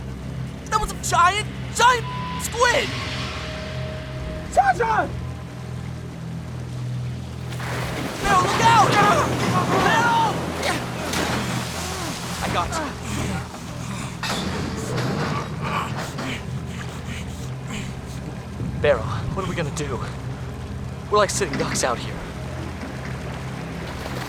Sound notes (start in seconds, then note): 14.8 breathing heavily; 24.0 water splashes